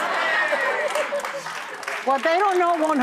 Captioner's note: audience laughing